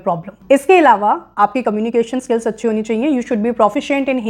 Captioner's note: speaking hindi